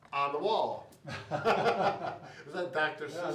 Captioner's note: both laughing